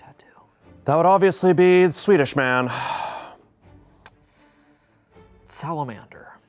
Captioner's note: sighs